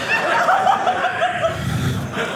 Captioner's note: audience laughing